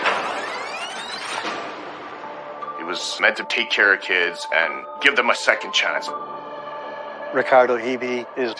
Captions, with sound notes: [tape rewinding] - He was meant to take care of kids and give them a second chance.